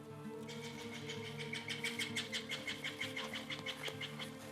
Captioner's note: birds chirping